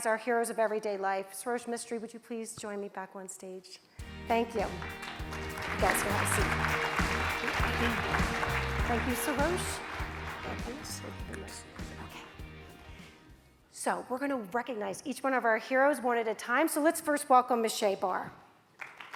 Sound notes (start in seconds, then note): 7.5 audience applauds; 7.5 upbeat music